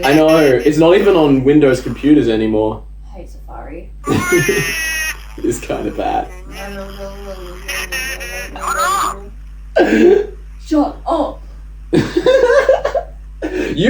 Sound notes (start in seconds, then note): 4.0 laughs; 6.6 imitates silly voice in video; 9.5 cracks up; 12.4 laughs